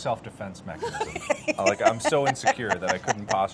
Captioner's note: Carla laughing